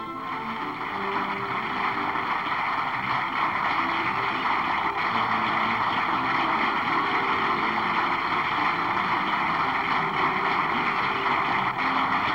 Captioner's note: applause